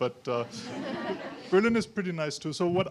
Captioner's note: audience laughing